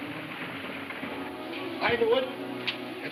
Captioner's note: speaking foreign language